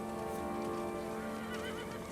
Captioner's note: horse neighing